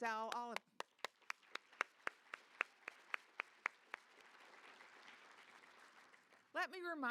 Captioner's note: applause